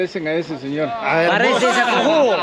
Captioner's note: laughs